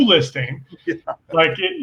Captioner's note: laughs